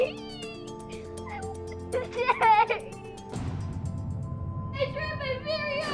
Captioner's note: sobs